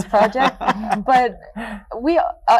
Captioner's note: laughing